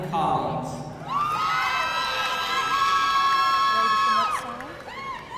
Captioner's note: audience cheering